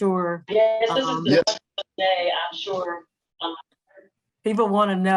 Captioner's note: attendee's speaker echoing